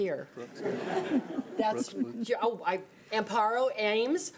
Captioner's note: audience laughing